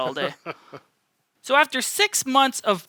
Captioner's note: laughs